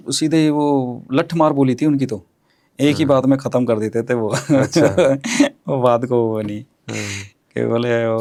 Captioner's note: laughter